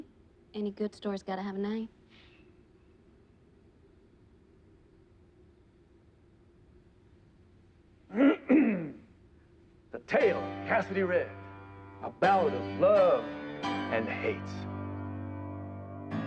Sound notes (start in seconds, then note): 1.9 sighs; 8.1 clears throat; 16.0 piano music playing